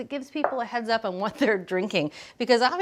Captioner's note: laughing